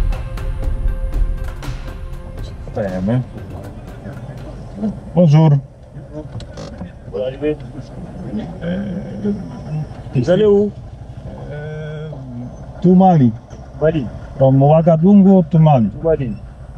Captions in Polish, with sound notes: Stajemy. Bonjour. [rozmowa po francusku] [rozmowa w j. angielskim] To Mali. From Wagadugu to Mali.